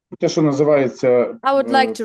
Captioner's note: non-english speech